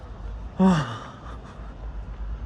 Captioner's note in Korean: 한숨